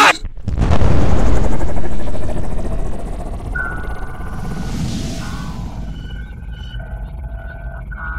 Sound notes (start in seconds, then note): 2.2 spaceship go weeeeeeeeeeeeeee